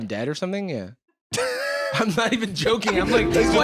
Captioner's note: laughing; laughs